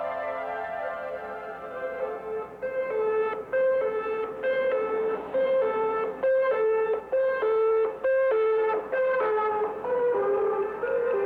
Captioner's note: emergency vehicle sirens